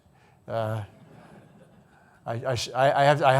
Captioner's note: audience laughing